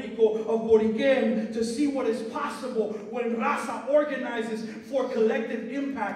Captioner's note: non-english speech